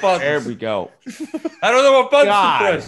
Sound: laugh

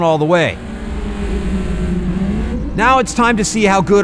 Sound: engines revs

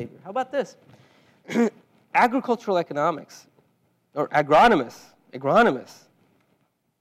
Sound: cough

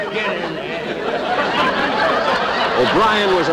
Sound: audience Laughing

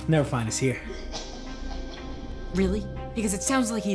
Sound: evil laugh

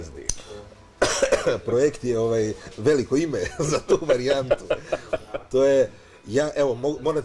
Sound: laughs

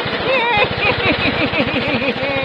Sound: evil laugh

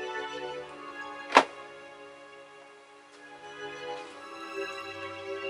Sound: cupboard doors closing

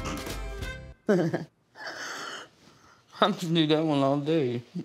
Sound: laughter

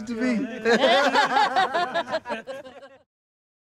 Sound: laughter

